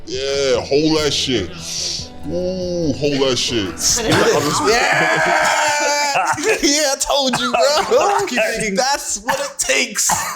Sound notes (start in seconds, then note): 4.7 normal voice; 7.9 coughs